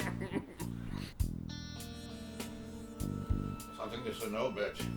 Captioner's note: laughs